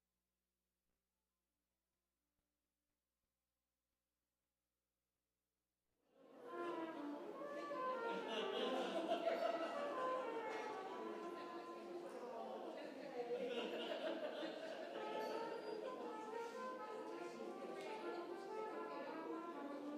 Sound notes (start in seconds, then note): 6.3 trumpet music; 8.0 congregation member laughing; 12.0 congregation chattering